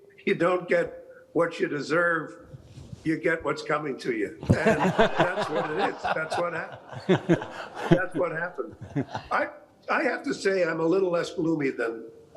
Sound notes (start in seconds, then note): 4.4 all laughing